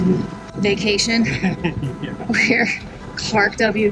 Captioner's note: laughs